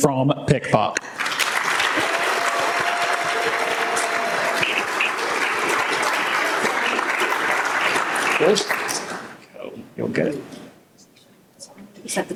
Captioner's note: applause and cheers